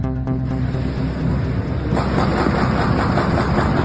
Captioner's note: gun fires